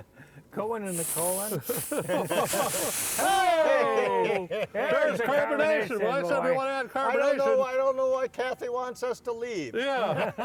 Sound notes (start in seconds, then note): 0.8 soda fizzing; 1.2 laughing; 3.2 group cheering; 6.4 laughing